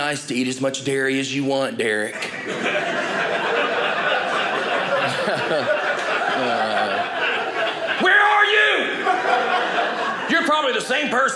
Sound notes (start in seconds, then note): 2.5 audience laughing